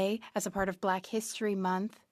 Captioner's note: speaking French